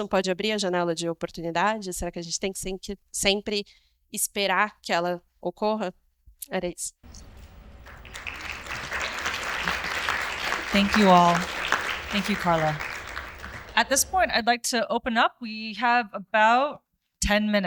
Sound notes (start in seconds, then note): 9.1 audience applauds